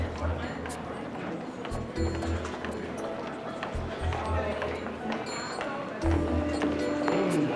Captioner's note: footsteps